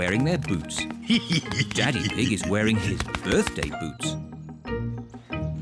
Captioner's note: laughs